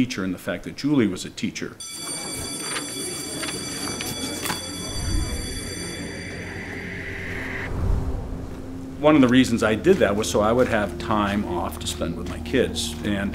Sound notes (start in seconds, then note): 1.8 school bell ringing; 1.9 kids chattering